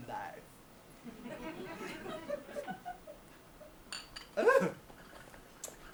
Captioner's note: audience laughs